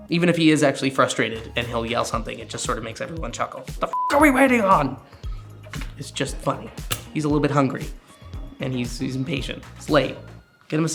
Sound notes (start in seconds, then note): 3.9 beep